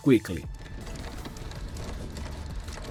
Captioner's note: gears sound